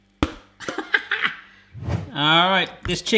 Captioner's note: laughs